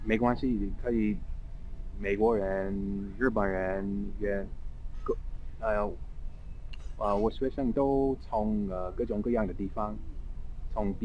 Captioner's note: mandarin